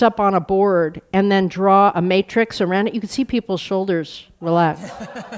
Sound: laughter

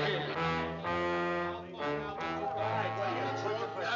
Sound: mischievous music; arguing getting louder

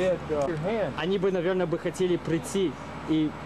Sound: russian speech

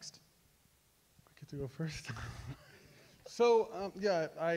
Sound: laughs

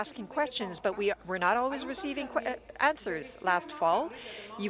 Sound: speaking in French

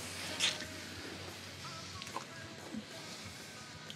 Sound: smooching

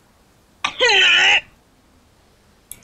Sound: mocks the character grunt noise

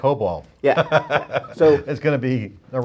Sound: laughing

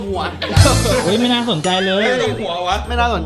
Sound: laughs

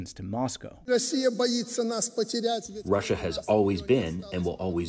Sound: through translator

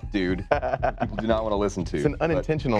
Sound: laughing

